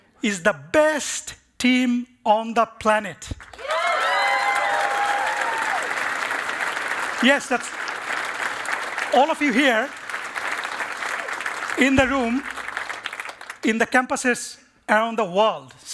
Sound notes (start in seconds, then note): 3.3 cheering and applause